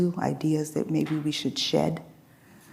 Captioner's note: none